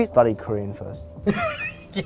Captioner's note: laughter